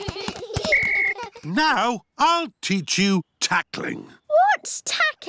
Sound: blows whistle

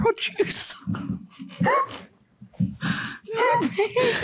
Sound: all laughing

